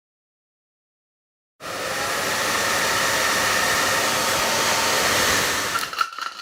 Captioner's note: hairdryer